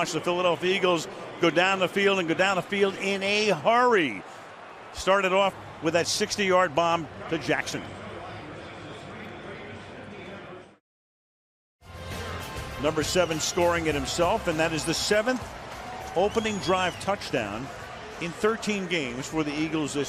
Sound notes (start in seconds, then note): 8.7 pa announcement